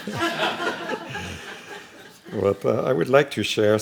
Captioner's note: laughing